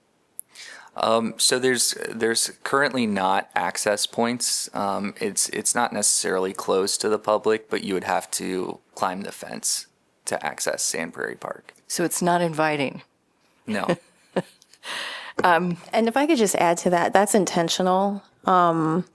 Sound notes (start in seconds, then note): 13.7 laughter